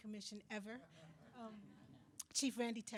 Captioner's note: attendees laughing